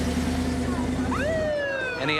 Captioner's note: police siren blaring